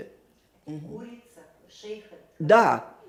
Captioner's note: yiddish